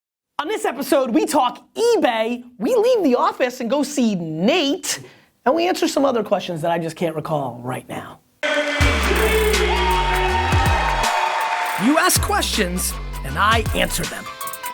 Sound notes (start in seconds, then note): 8.4 cheers and applause